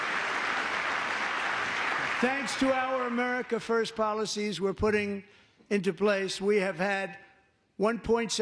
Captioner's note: applause